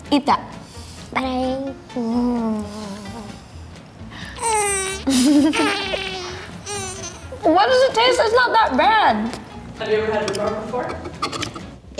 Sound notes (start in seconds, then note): 4.4 giggling; 5.5 groaning